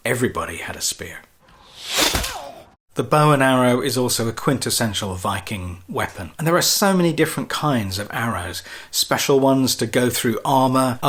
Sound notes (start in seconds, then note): 1.5 arrow thuds